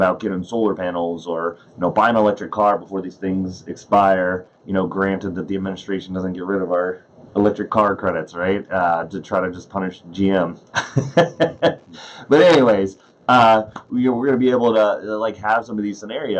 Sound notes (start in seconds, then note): 10.7 laughs